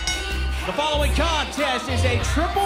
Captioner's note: bell ringing